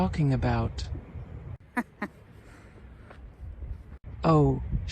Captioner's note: laughs/chuckles